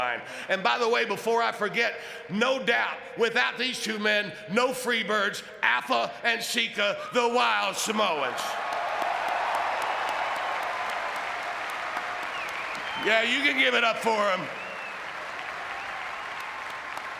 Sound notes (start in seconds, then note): 8.2 audience cheering and clapping